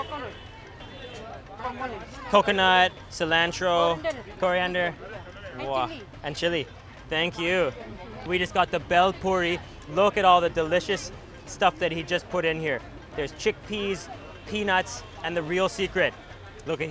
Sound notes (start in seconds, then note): 3.8 speaking foreign language